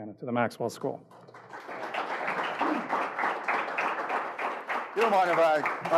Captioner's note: crowd applauding